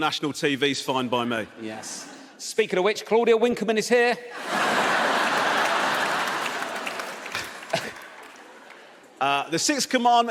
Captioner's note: audience laughs